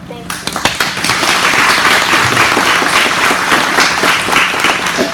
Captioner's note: audience applauds